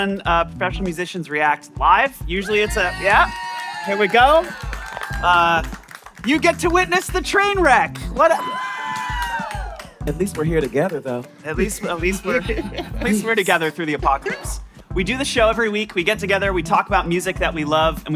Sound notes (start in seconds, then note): 3.4 applause